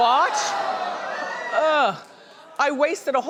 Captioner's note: audience groaning